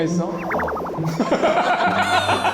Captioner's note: hahaha